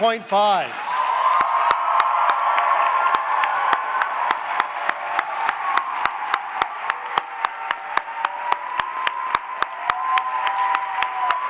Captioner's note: cheering and applause